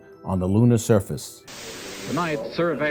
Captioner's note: static